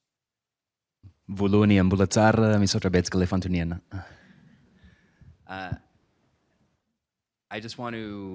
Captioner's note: non-english